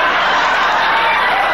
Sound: audience laughing

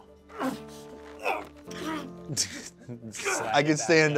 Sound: grunting

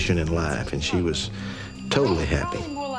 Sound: phone ringing

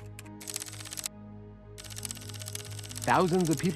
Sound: keyboard clicking

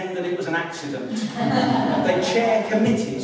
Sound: laughter

